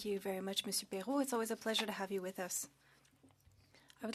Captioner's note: speaking French